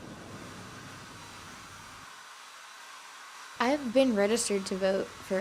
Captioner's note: blow dryer running